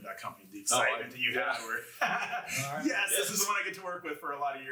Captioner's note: all laugh